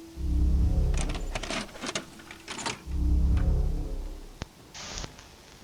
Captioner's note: sound of a VHS tape being inserted into a VCR; static plays on the tape